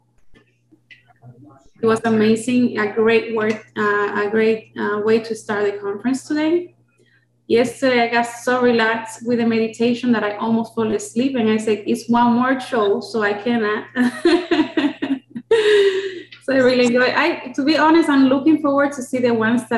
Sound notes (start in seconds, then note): 13.8 laughs